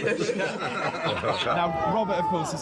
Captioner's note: table laughs